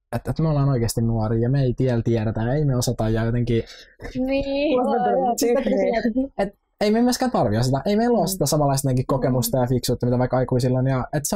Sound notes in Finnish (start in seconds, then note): 5.4 Kaikki nauravat